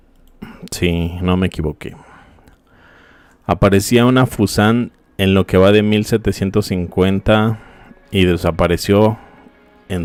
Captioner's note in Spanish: carraspeo